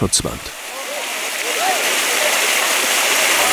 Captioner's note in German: Wasserplätschern